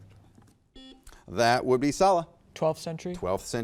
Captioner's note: buzzer beeps